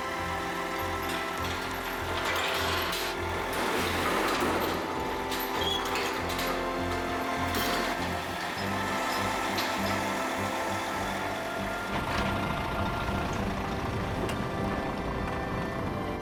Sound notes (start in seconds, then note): 0.1 lorry engine idles; 3.5 chains clanking